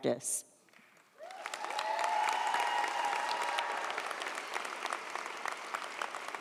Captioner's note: audience applauds; audience cheers